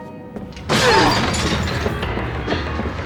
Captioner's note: grunting